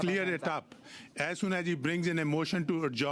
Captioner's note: speaking French